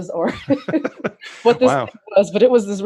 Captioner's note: laughs